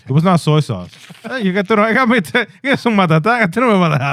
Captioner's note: speaking In Foreign Language